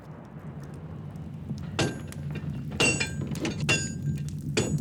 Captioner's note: hammer pounding